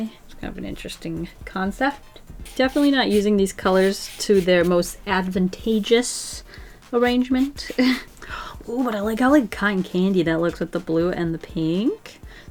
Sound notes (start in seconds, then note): 7.7 laughs